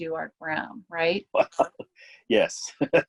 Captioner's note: laughter